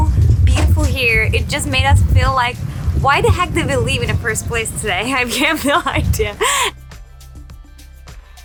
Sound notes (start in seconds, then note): 6.1 laughing